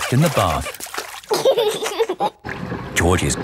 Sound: giggling

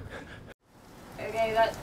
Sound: rain

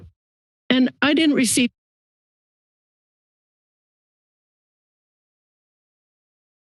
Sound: silence

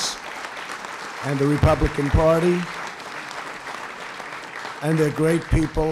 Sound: applause

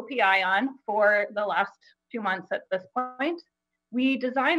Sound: audio distorts

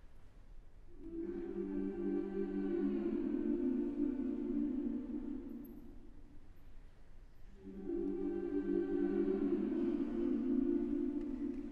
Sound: hum

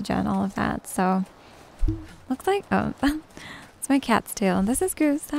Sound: tiny bonk noise

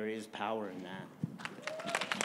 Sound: applause

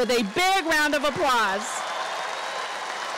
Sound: applause

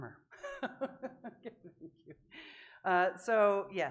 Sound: laughing

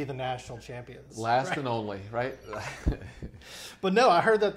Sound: laughs

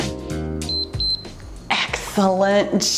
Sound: timer beeps

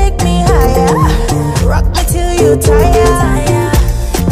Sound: tired

